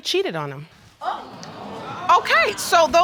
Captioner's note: audience exclaiming